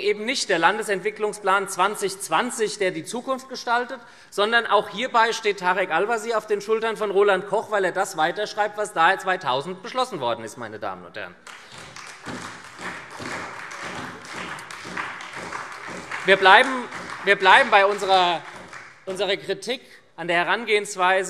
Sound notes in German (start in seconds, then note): 11.4 Beifall SPD